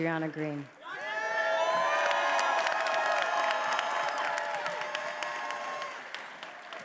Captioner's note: attendees applauding and cheering